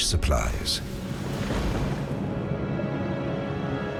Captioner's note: thunder crashing